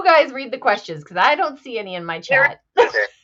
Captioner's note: laughs